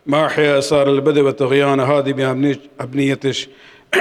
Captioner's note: arabic